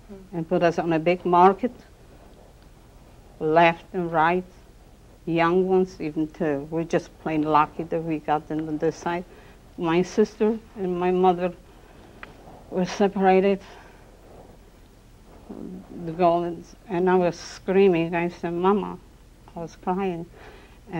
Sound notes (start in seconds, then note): 15.6 non-english speech